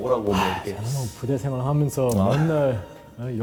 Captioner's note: sigh